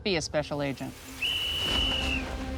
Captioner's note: whistle